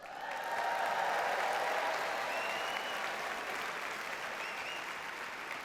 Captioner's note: audience cheers and applauds